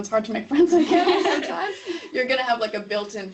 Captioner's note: laughing